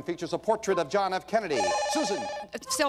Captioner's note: bell rings